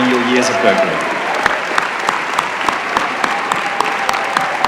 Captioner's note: applause